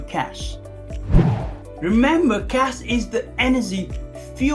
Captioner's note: air swooshing